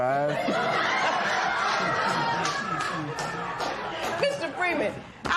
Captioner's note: laughter